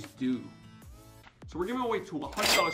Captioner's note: cash register